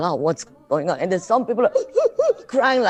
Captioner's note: mimics sobbing